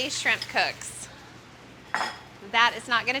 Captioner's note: sizzling